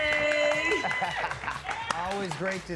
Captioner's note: laughs